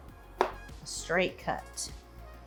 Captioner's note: gentle music continues; knife chops